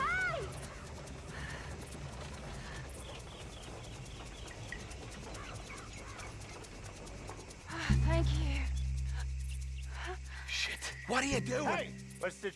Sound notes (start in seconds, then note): 8.8 sighs